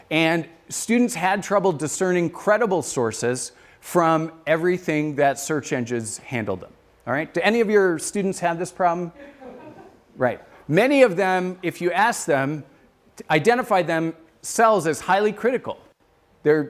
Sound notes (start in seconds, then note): 9.1 laughter